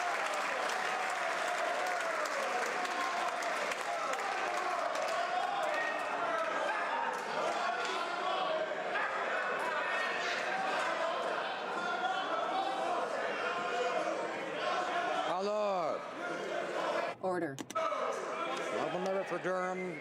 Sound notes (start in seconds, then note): 0.0 applause